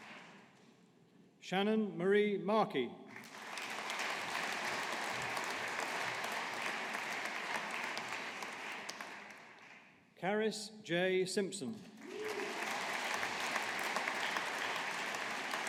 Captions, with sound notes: Shannon Marie Markey. (AUDIENCE APPLAUDING) Caris Jaye Simpson. (AUDIENCE APPLAUDING)